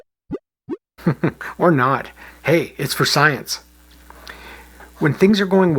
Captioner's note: chuckles